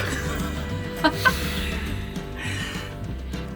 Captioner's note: laughs